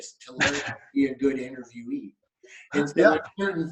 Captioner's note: laughing